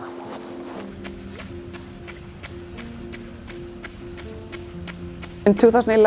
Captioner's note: shoes thudding